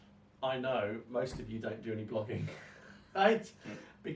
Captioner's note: chuckles